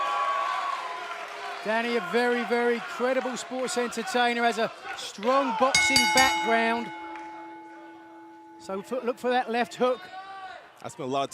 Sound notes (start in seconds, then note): 0.0 cheers and applause; 5.7 bell ringing